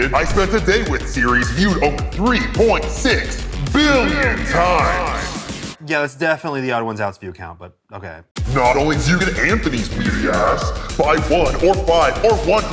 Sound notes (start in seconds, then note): none